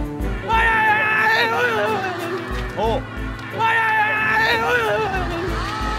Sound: exclaiming

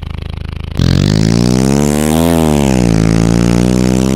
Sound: motor sound

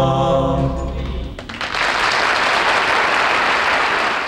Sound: audience applauding

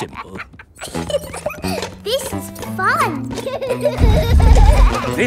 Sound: giggles

